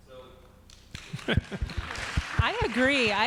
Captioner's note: audience clapping